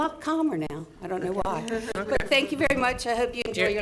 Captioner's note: chuckling